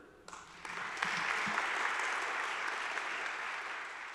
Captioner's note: audience applauds